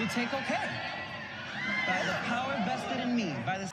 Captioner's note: crowd cheering